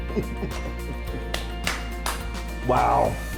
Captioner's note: claps